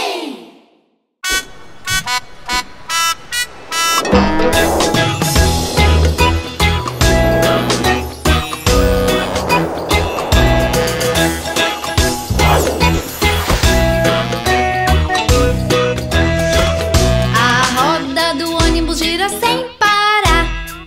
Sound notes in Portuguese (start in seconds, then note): 1.0 Música Alegre; 1.0 Som de buzina